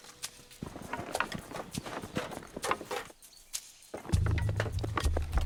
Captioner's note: thundering footsteps